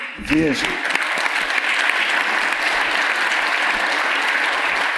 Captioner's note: audience applauds